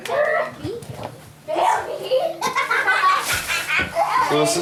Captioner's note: laugh and chatter